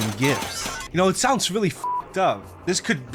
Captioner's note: beep